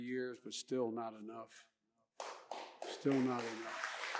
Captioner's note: applause